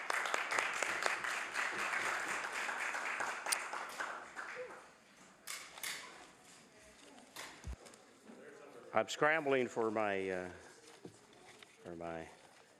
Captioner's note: applause